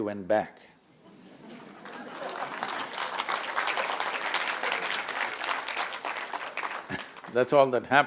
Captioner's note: laughter/Applause